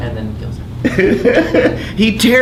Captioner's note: laughing